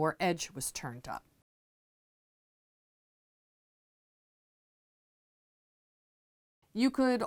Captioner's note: no Sound Present